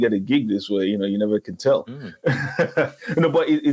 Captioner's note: laughs